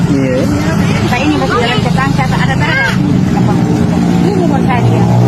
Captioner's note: indonesian dialogue continues